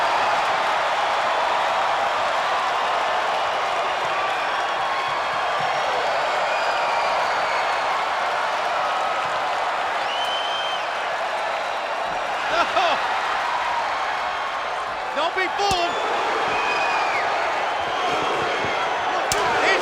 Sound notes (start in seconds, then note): 0.1 spectators cheering and applauding; 15.6 slap smacks; 17.0 spectators cheering